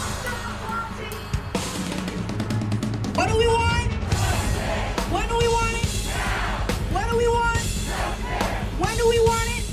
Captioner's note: chant